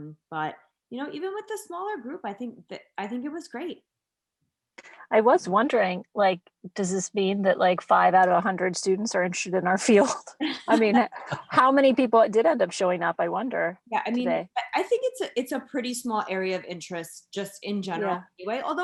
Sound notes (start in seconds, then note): 10.7 laughs loudly